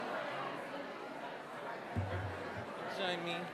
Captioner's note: audience murmuring